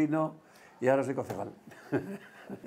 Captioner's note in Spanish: ríe